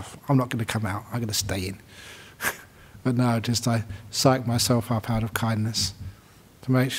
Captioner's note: chuckles